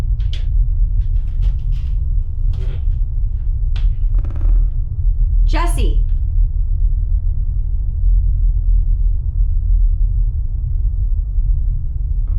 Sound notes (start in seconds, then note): 3.7 floor creaking